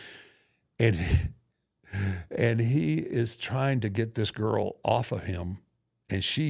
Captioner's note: laughs